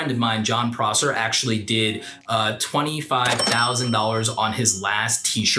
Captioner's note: cash register dings